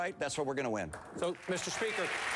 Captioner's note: applause